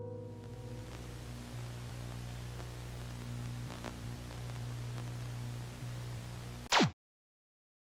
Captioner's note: static noise